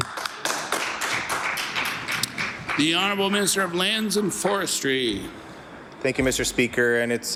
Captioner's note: some Applause